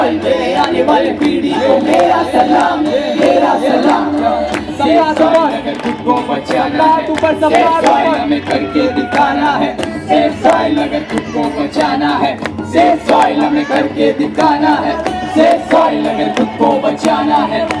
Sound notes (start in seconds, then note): 12.5 speaks in Hindi - not transcribed